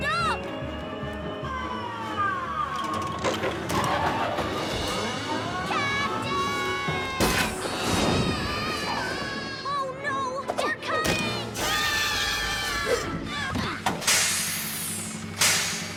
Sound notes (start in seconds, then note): 0.2 fork lift working; 8.1 Captain Flamingo screams; 11.7 both scream